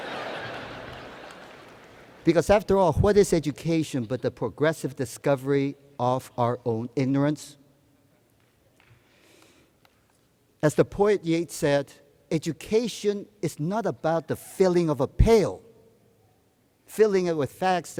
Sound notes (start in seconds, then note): 0.0 laughter